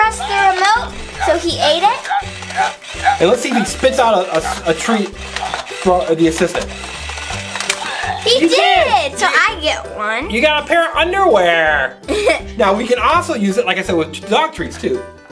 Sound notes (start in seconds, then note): 12.0 The Assistant Laughs